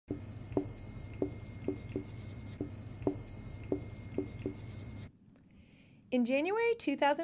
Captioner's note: whiteboard squeaks